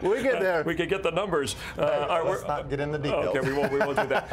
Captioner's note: laughter